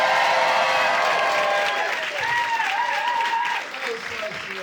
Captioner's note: audience applauding; audience cheering; audience applauding